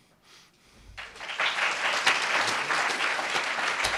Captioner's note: applauds